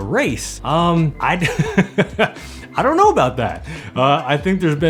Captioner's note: laughing